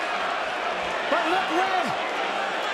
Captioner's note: crowd cheering